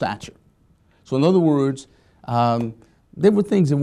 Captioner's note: hands clapping